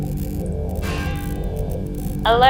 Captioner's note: loud metal clang